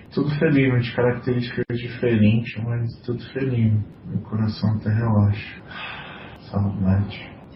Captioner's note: sigh